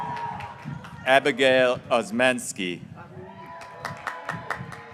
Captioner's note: graduates cheering